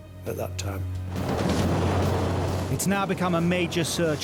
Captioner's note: gentle music; waves roaring